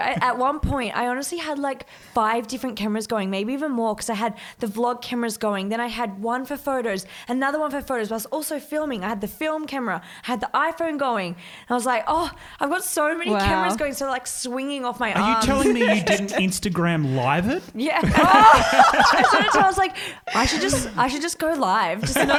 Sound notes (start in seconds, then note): 18.0 all laugh